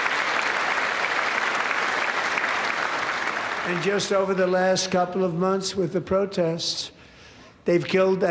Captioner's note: applause